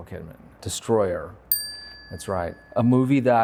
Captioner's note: bell dings